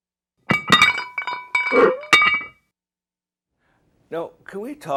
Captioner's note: stove rattling